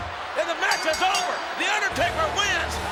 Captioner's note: bell rings